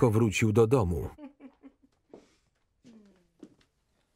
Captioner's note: Betty chuckles